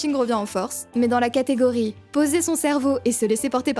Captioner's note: none